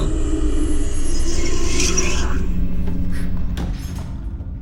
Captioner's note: demonic voice whispers; Mattie gasps